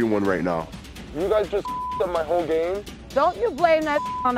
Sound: beep

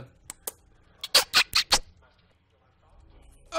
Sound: kissing sounds

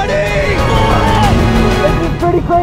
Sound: jet ski motor revving

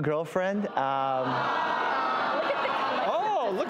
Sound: booing

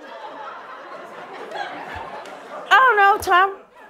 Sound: laughter

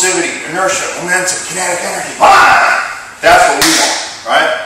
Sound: yell!

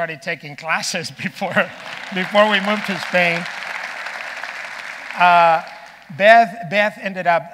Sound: audience applauding

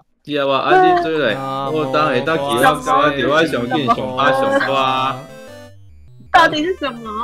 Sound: started reciting scriptures

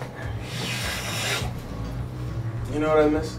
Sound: inhaling

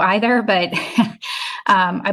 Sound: laughs

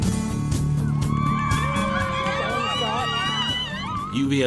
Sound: people Cheering

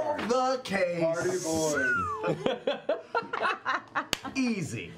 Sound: group laughter

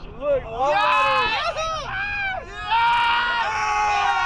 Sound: crowd cheering

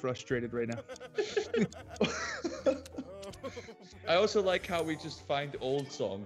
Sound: laugh

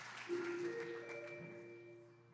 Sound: chime

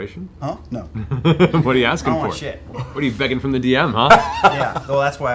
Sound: laughs

